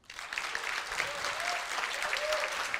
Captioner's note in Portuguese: aplausos